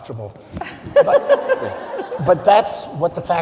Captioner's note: group laughing